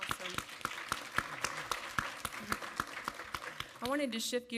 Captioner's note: audience applaud